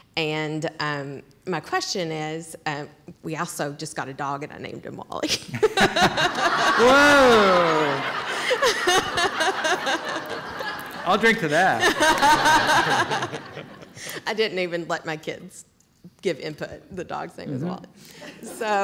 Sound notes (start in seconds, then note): 6.2 laughter; 9.2 laughter continues